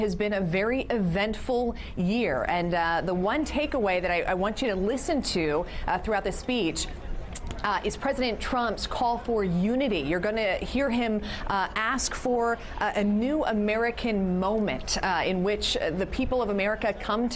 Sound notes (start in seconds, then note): none